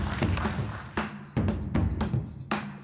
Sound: applauding

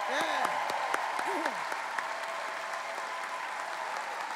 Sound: cheering

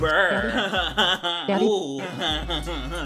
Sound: laughing

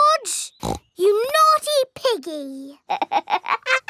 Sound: snorts; laughs

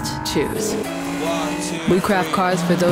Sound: engine rumbling

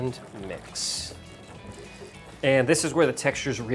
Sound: whisking

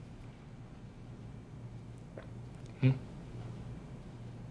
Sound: gulp

